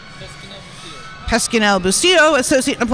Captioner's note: speaking faintly